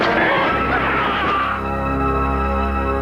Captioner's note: shrieks